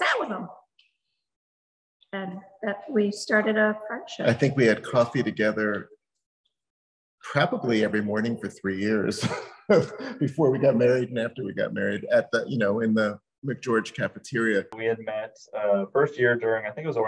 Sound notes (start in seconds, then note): 8.9 laughs